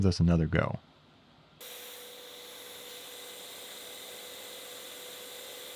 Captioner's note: machinery whirring